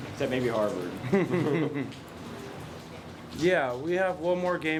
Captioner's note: laughing